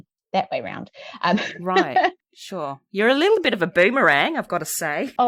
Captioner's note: aussie accent